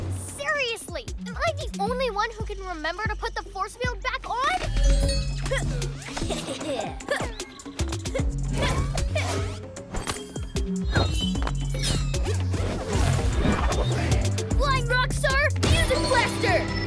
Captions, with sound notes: Seriously? Am I the only one who can remember to put the force field back on? (Evil chuckling) (Intriguing music) Flying Rockstar Music Blaster!